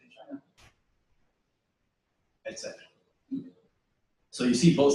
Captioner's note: pause